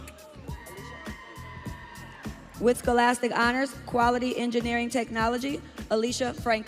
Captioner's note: audience cheering